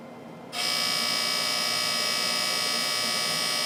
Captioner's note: laser buzzes